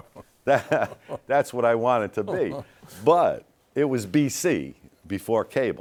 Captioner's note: laughing; laughs